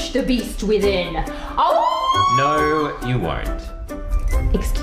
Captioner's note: howls